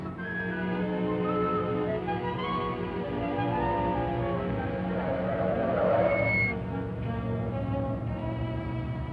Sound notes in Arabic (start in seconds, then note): 0.0 موسيقى أوركسترالية بطيئة; 5.1 الاطارات تتمزق